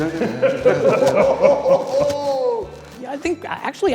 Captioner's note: laughing